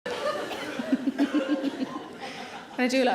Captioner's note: Sarah laughs